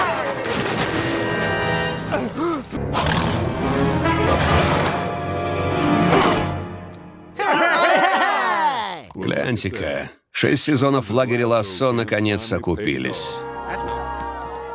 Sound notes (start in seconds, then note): 4.1 allll shout; 5.4 groans; 7.4 all cheheering